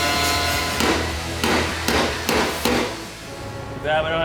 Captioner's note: hammer banging